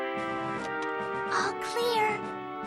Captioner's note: whispering